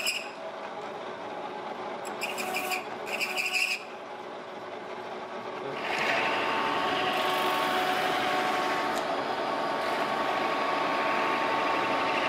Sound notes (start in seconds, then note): 3.0 high squeak